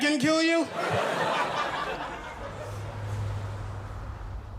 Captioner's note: audience laughs